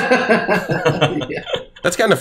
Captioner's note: laughs